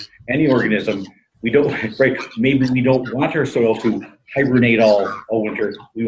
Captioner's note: laughs